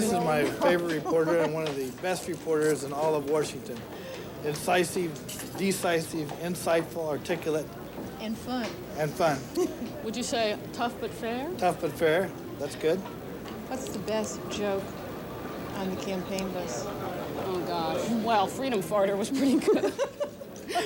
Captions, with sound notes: -This is my favorite reporter, and one of the best reporters in all of Washington. Incisive, decisive, insightful, articulate -And fun -And fun. -Would you say, 'tough but fair'? -Tough but fair, that's good. -What's the best joke on the campaign bus? -Oh gosh, well 'freedom farter' was pretty good! (laughing)